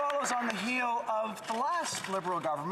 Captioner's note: some Applause